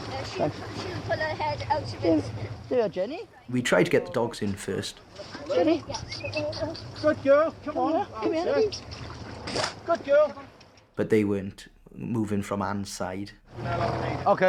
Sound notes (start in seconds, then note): 6.0 whistles